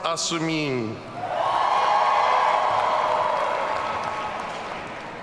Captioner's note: audience cheering